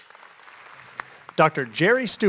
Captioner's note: applause